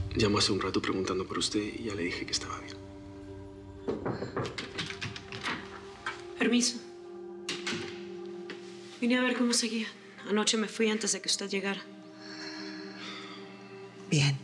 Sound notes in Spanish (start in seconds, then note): 3.8 toques en la puerta; 3.8 sonido al abrir la puerta